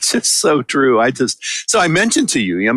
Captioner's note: chuckle